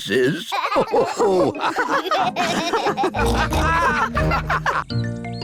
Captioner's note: all laugh